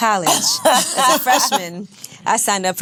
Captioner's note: laughs